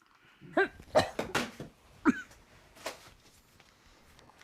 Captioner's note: Zora coughing